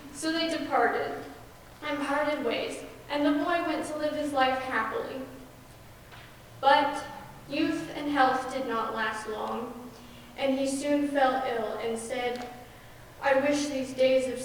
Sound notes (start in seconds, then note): none